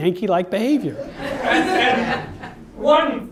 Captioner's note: audience laughs